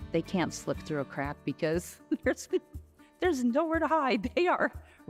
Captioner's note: laughs